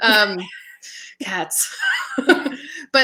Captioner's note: laughing